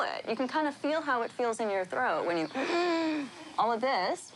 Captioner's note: wheezes